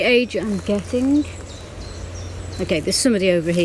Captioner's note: birds chirping